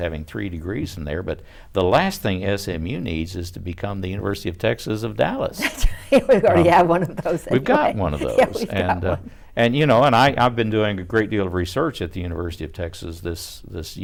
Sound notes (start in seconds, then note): 5.6 laughs